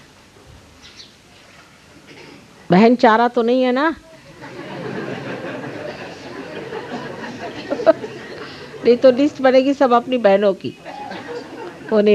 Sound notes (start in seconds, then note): 4.2 laughs; 4.2 laugh